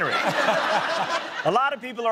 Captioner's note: laughter